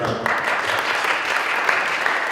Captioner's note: applause